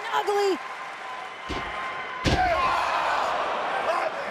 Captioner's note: crowd cheering